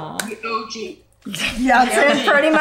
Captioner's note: ladies laugh